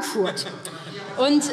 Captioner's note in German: Heiterkeit